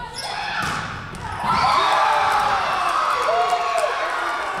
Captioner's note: Tigers cheering